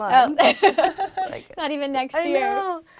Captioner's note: laugh